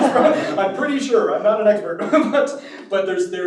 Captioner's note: audience laughs; laughs